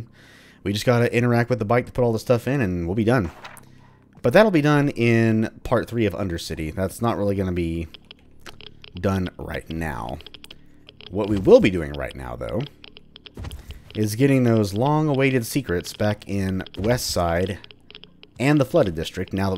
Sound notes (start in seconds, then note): 3.2 journal closes